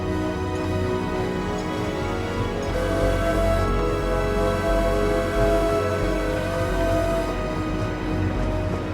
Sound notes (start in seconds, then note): 3.2 train whistle blowing